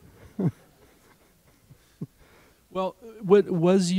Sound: laughter

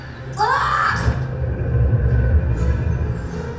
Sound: dramatic music; kid yelling

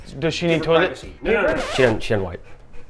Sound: record scratch

